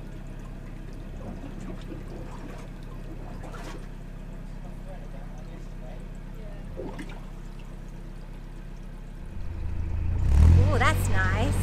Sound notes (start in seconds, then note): 0.3 sounds of water gurgling in lock; 9.3 engine revs